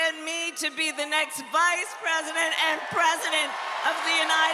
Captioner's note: cheers and applause